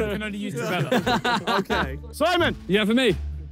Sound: players laugh

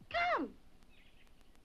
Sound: birds chirping

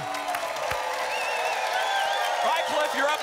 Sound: applause

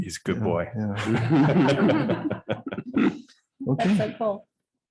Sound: audience laughing

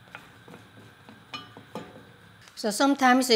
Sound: spoon thudding

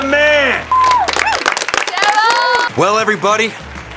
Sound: cheering

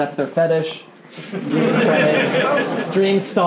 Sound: laughing

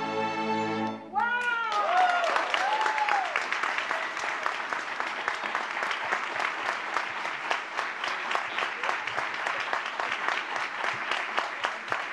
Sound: applause

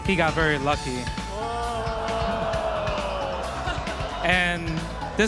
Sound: crowd "oohhhhhhhh"ing

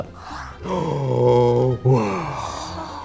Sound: gasps

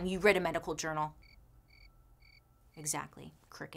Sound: crickets chirping

